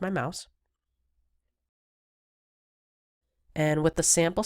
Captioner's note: silence